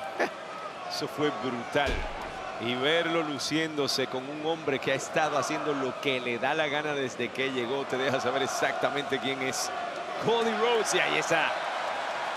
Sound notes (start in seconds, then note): 1.4 laugh